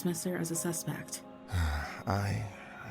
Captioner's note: sighs